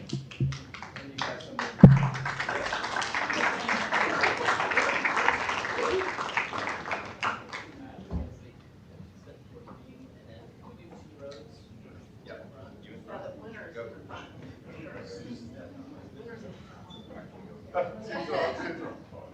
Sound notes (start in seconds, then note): 8.0 applause